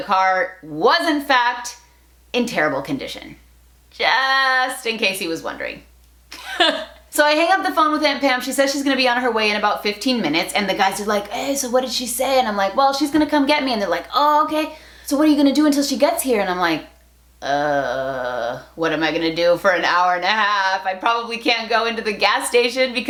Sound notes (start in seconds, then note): 6.4 laughs